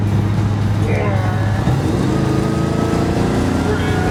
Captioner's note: engine roaring